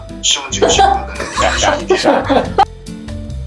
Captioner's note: laughter